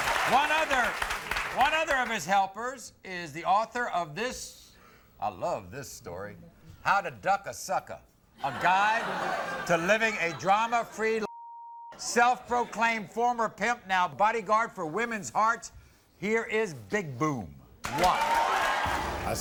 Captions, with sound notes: One other, one other of his helpers is the author of this, I love this story, 'How to Duck a Sucka' (Audience laughs) A guide to living a drama free life. (beep) Self-proclaimed, former pimp now body gaurd for woman's hearts. Here is Big Boom, watch.